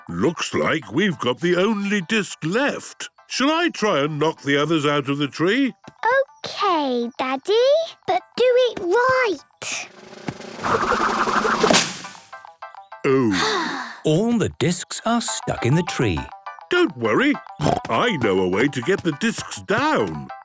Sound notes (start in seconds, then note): 9.8 drum roll; 13.1 Peppa sighing